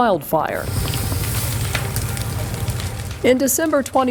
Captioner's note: water splashing